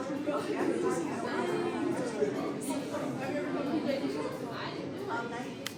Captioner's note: overlapping chatter